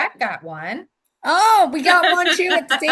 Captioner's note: laughs